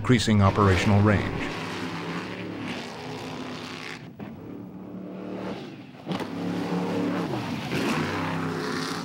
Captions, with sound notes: increasing operational range. (engines humming)